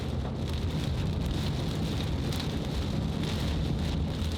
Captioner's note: rain patters